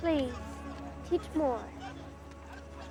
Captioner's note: background chatter